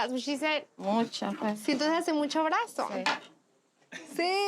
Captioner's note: speaking Spanish